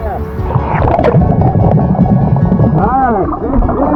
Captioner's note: oxygen bubbling in water